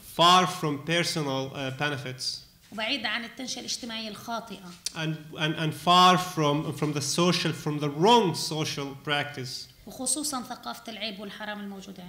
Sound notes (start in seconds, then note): 2.9 speaking arabic; 9.7 speaking arabic